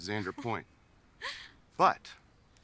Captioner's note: Bree laughs